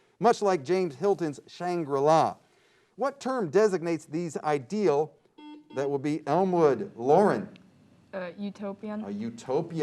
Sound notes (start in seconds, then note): 5.4 beep